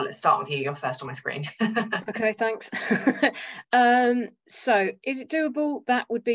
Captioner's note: chuckles